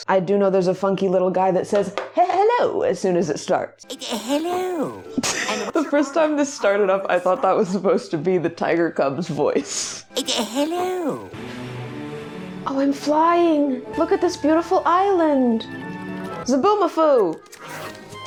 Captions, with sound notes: I do know there's a funky little guy that says, "H-hello!" as soon as it starts. - H-hello! [laughs] The first time this started up, I thought that was supposed to be the tiger cub's voice. - H-hello [orchestral music] Oh, I'm flying. Look at this beautiful island. Zaboomafoo!